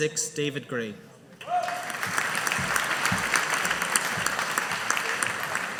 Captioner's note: audience applauding